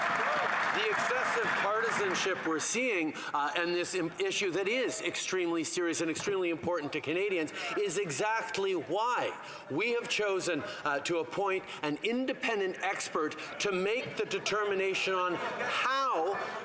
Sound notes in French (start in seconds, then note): 0.0 applaudissements; 4.4 voix de l'interprète